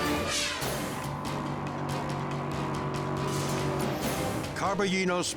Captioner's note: car roaring